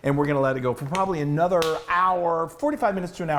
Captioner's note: claps hands